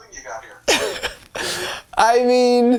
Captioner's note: laughs